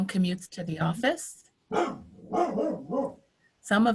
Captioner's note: dog barking